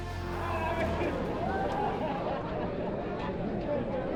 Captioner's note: suspenseful music; people chattering